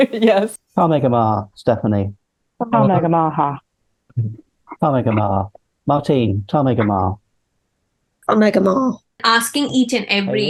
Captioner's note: Speaking Irish